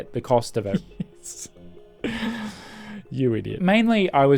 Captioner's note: laughing